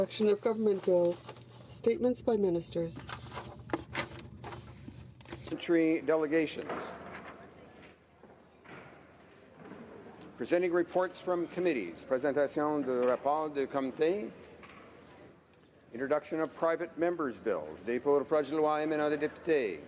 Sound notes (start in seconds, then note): 2.0 speaking French; 17.7 speaking French